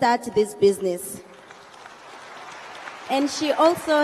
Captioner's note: audience applauds